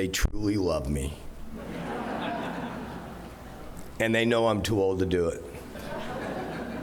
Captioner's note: laughter